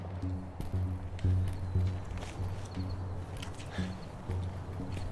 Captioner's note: footsteps